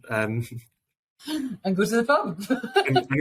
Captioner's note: laughing